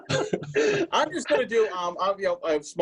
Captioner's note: laughter